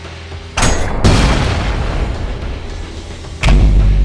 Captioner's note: tink!; boom!!!